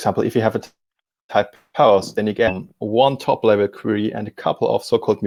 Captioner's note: distortion muffles speaker